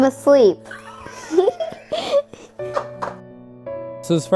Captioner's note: laughter